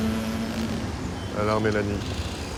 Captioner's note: speaking french